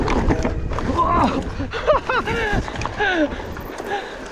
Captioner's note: laughing